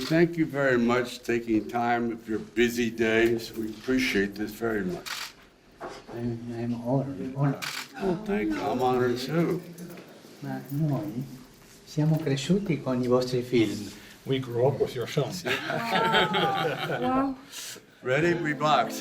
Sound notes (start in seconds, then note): 10.9 speaking in a foreign language